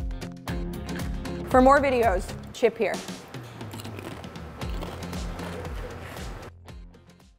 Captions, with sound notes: For more videos, chip here. (crunching on chips)